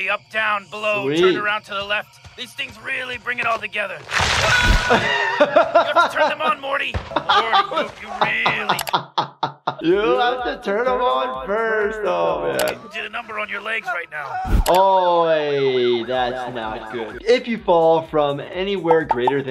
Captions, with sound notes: Uptown, below, turn around to the left. These things really bring it all together. (Morty screams) You have to turn them on, Morty. Morty, you really. - (laughs) You have to turn them on first. Oh, man. - It did a number on your legs right now. - Oh, hey, that's not good. If you fall from anywhere greater